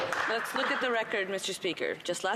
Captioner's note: some Applause